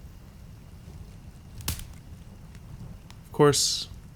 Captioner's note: louder snap from the fire